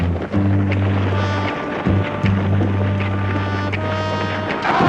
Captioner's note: shouting